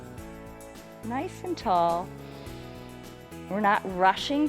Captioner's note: inhales